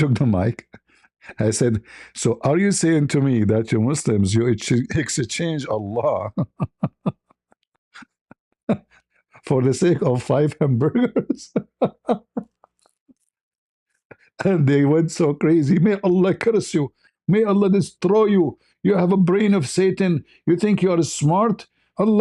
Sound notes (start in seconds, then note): 7.9 ketawa